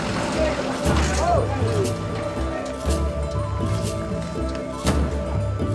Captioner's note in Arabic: الناس يتحدثون بشكل غير واضح